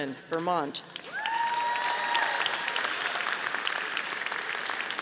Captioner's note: audience applauding